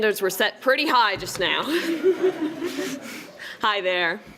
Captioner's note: laughs